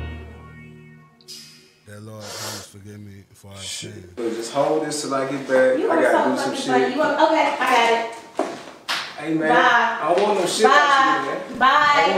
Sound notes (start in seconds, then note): 0.1 moody trap music; 7.3 woman arguing